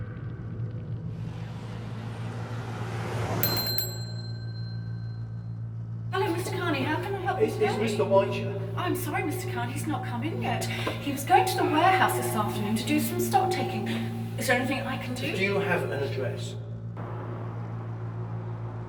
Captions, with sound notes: (fire crackling) (planes soaring) (bell dinging) - Oh, Mr. Carney, how can I help you today? - Is Mr. White here? - I'm sorry, Mr. Carney, he's not come in yet. He was going to the warehouse this afternoon to do some stock taking. Is there anything I can do? - Do you have an address?